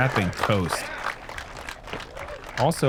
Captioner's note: applause